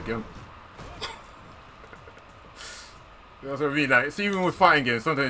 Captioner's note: laughs